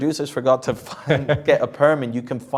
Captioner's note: laughs